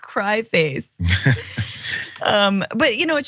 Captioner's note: laugh